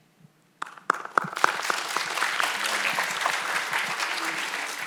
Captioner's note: audience applauds